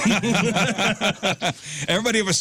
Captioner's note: laughing